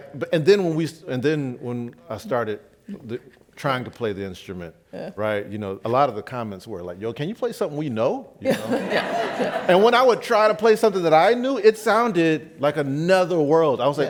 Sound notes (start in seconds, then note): 8.5 laughs